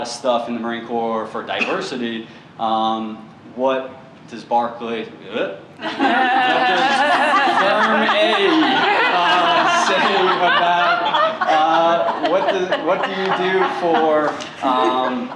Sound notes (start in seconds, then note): 4.7 laughter; 5.6 mumbling